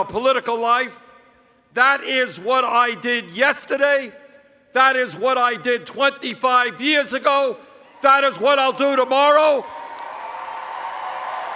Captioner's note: cheers